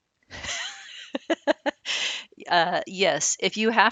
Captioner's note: laughing